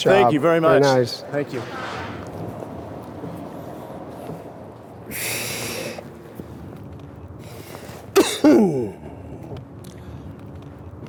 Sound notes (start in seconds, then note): 5.6 coughing